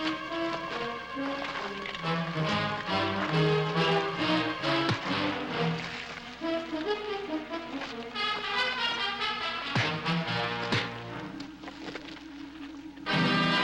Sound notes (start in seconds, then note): 4.9 fist thwacks; 9.7 fists thwacking